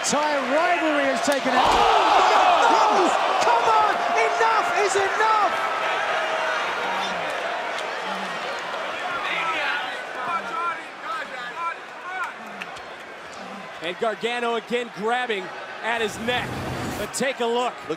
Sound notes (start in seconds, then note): 6.2 crowd chatter